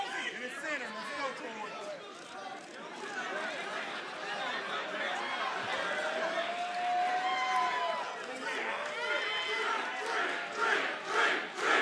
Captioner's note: crowd cheering